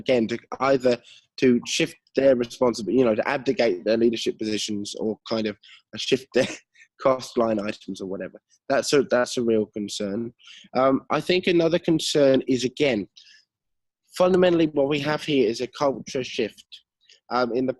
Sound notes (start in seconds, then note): 6.6 laughs